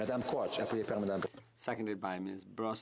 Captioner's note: some Applause